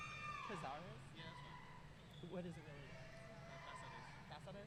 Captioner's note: speaking faintly